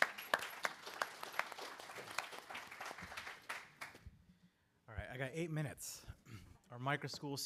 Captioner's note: applause